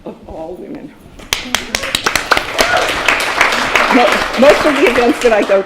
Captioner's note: applause